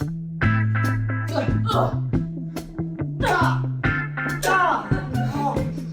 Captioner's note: slaps